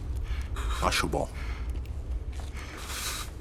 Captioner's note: hammer clicks